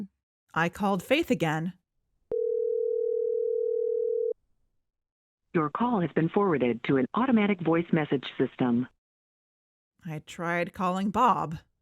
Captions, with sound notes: ROBIN I called Faith again. (phone ring) PHONE MESSAGE Your call has been forwarded to an automatic voice message system. ROBIN I tried calling Bob.